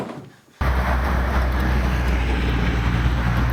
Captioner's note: car traffic noises